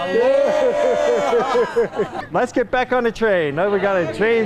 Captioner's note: cheers